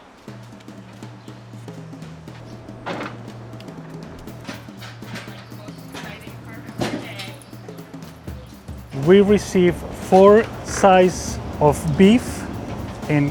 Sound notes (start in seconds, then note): 0.8 upbeat music; 6.1 crowd chattering